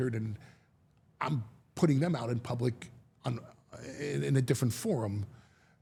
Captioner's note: none